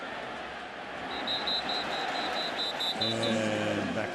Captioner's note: whistle blowing